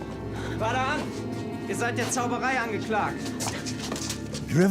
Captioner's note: in German